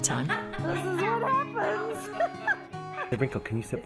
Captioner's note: laughs